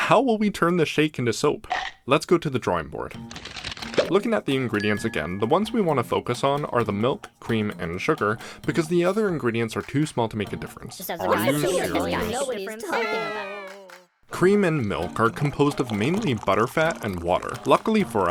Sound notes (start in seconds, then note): 10.6 exasperated frustration noises